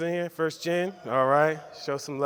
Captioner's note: scream